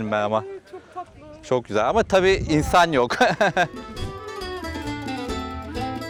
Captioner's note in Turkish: kahkaha